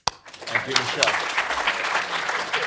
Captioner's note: applause